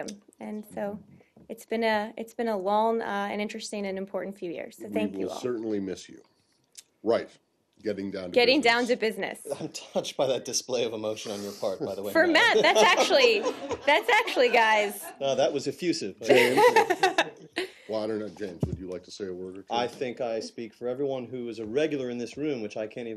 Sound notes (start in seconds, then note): 12.2 laughter